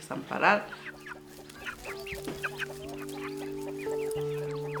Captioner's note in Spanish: Cacareos